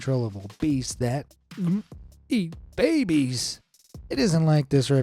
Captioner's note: gulps